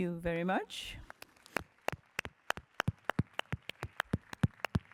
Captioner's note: applause